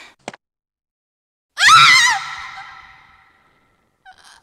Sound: Rebecca screams

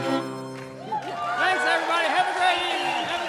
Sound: audience cheering

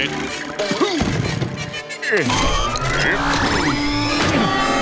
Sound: grunting

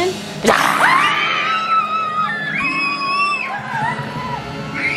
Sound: everyone screaming

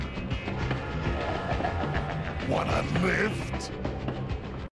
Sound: laughs

